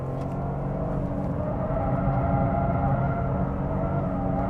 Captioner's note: engine raging